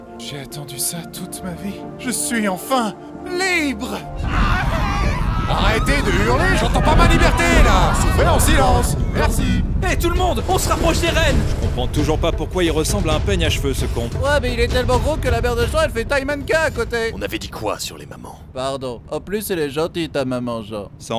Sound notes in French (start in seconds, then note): 4.1 hurlement